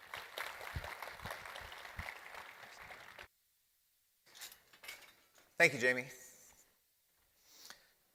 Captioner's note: applause